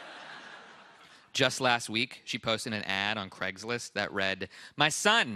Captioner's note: laughter